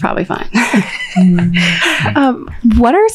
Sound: all laughing

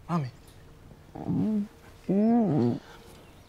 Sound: groans

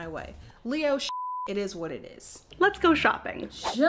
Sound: beep

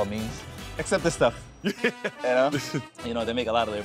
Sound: laughs

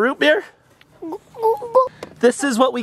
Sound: gulping

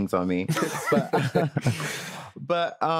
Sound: all laughing

